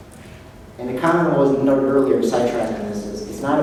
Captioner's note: none